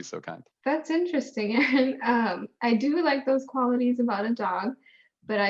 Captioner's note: laughter